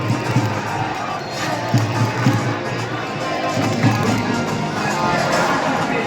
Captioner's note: line-up announcement followed by enthusiastic cheering from supporters~